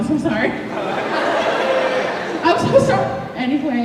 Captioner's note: laughter